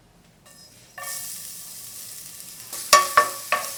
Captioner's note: sizzling pan